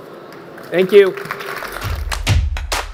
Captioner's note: audience applauds; upbeat music